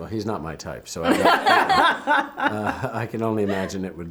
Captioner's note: laughing